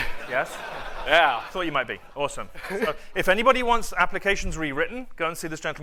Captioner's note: laughter